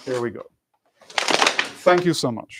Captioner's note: smacking